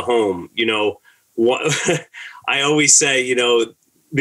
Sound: laughter

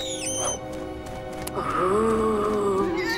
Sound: moaning

